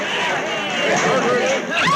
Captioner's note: woman screams